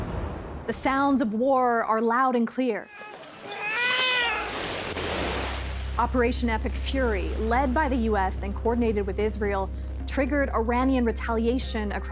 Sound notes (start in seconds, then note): 2.8 crying; 4.6 whooshing